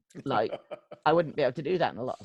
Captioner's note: laughs